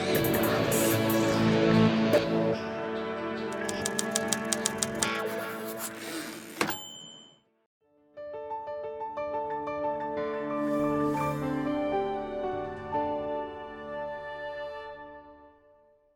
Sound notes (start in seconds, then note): 3.5 typewriter sounds; 6.6 typewriter dings